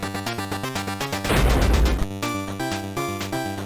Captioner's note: thud